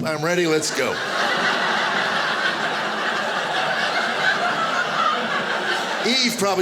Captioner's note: audience laughing